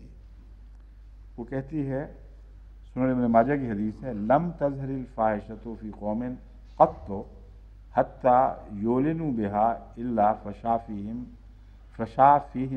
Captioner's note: Arabic